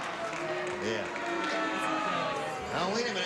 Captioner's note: audience booing